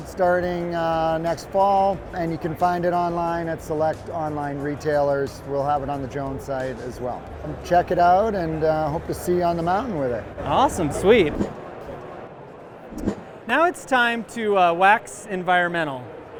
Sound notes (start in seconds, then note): 12.9 air whooshing